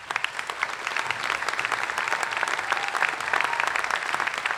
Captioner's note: applause